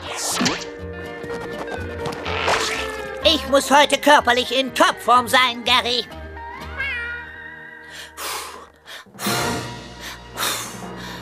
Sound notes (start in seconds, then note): 6.7 <i> meows</i>; 7.3 <i> breathing deeply</i>